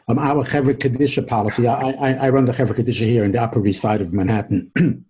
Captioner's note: coughs